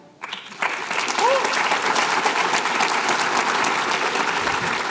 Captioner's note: applause